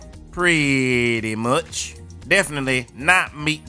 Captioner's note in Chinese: 在說反話